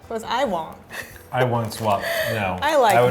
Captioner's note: laughing